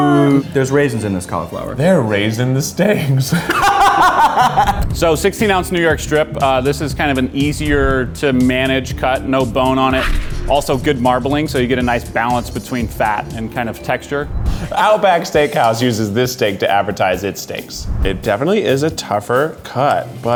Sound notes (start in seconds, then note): 3.2 laughs; 3.3 laughs loudly